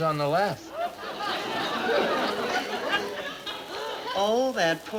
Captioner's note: audience laughing